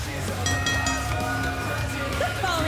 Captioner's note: bell ringing; crowd cheering